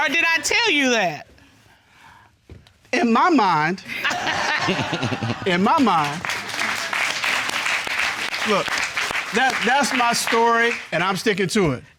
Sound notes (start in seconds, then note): 3.9 audience laughing; 4.0 chuckles; 6.2 audience applauding